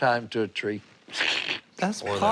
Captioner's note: chuckles